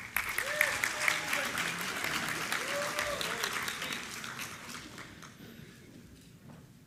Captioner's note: applause